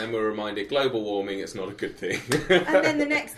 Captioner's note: chuckles